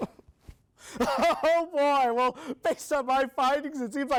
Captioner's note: reporter chuckling